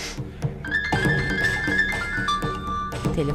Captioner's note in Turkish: Telefon zili sesi